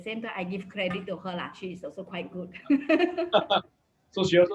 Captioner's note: laughs